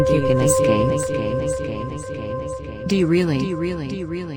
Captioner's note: voice echoing